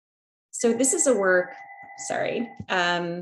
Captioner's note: ringing noise